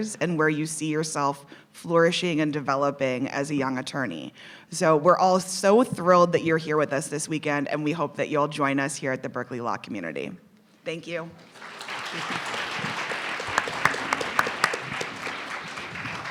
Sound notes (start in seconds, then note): 11.4 audience clapping